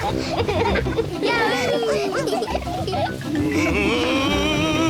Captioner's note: all giggle